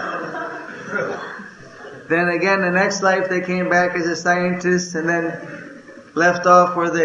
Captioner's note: laughter